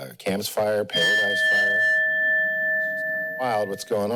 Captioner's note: bell rings